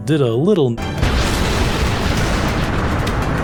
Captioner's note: explosion